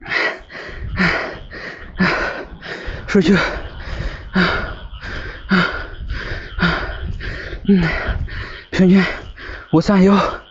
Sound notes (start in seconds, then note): 5.4 panting